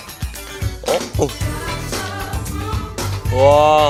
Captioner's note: Hahaha